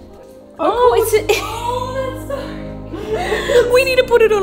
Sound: laughing

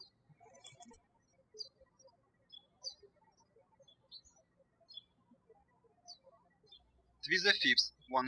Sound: birds chirping

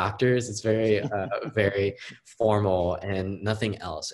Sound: host laughing

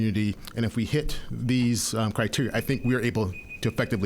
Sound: timer beeping

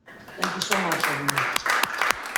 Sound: clapping

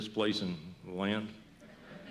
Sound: laughter

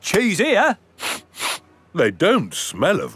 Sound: sniffs

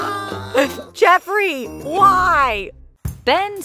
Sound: laughing

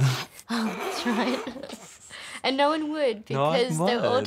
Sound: laughs

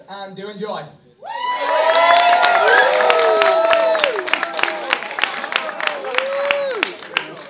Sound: applause, cheers; murmur

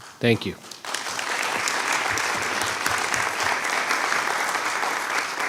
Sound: audience applauds

